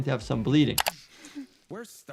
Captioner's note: mouse clicking